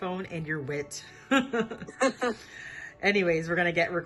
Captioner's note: chuckling